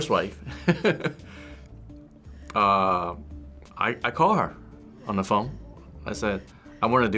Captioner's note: chuckles